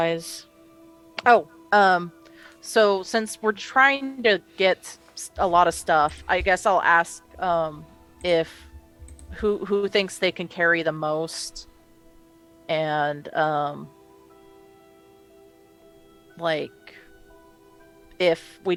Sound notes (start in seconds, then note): none